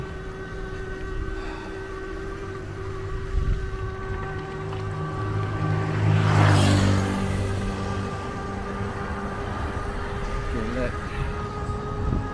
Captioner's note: motor Sound